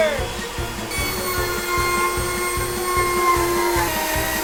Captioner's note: Dremmel buzzing